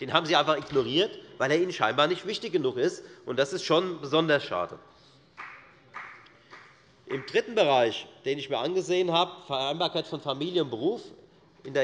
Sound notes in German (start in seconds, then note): 5.4 Beifall